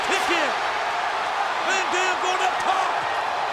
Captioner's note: crowd cheers